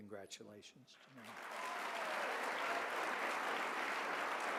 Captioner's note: applause